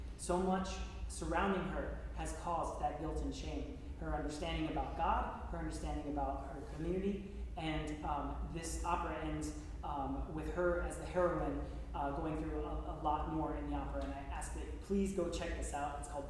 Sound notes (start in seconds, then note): none